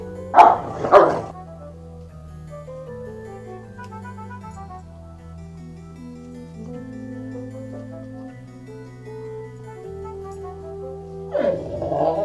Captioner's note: tired dog noises